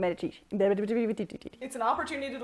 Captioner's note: mumbles words together